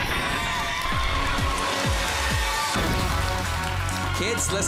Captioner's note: cheering, clapping